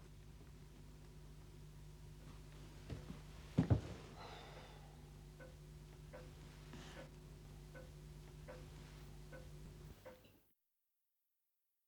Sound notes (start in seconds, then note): 4.2 sighs